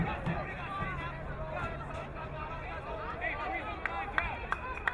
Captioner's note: crowd muttering